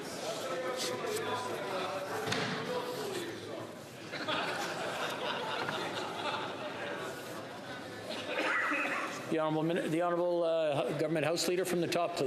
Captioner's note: yelling